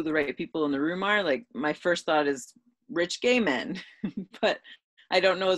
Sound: giggles

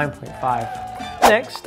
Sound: recording of crowd cheering

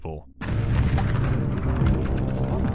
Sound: boosh

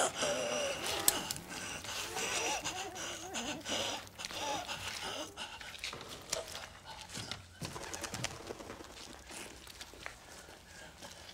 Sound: gasping

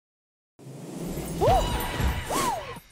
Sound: whoosh and Magical twinkle

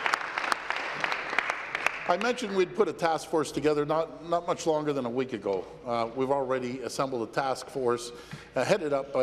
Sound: applause

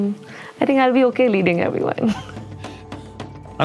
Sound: laugh

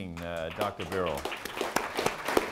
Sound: applause

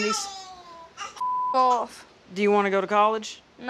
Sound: beep

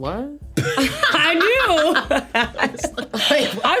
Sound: laughs

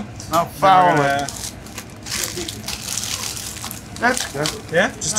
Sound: wrapper crinkling

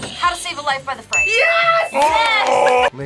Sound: buzzer rings; bell rings

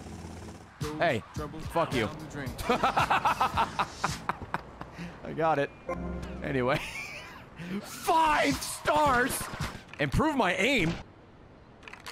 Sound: laughs

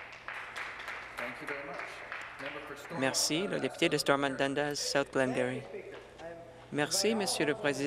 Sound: speaking French; some Applause

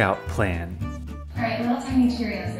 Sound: on TV

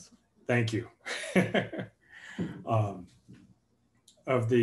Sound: laughs

